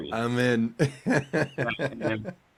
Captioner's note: laughing